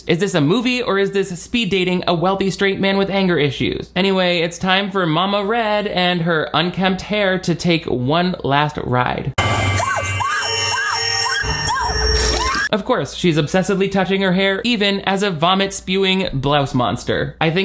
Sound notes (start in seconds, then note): 9.4 intense instrumental music; 9.7 shrieks